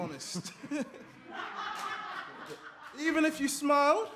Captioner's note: audience laughter